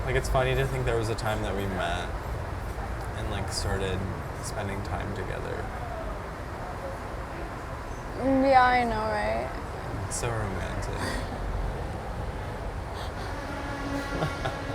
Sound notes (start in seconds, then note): 12.9 laugh